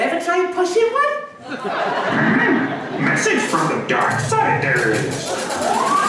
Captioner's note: audience laughs